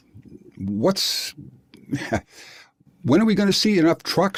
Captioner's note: laugh